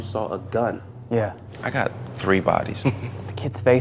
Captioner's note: chuckles